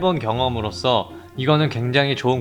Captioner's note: inhale